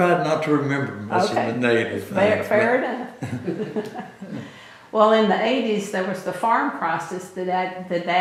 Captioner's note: laughter